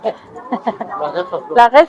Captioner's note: laughs